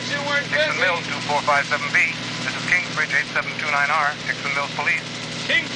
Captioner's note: radio